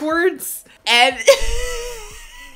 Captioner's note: laughs